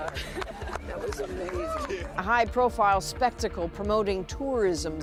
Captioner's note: applause